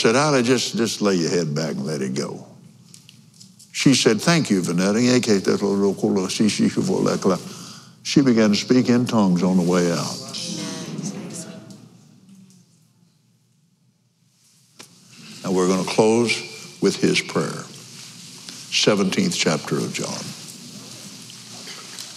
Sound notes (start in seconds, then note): 8.0 speaking in tongues